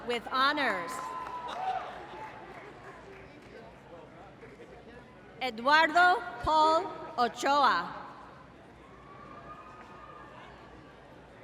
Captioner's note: applause